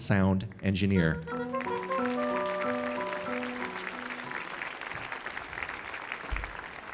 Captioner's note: piano music; audience applauding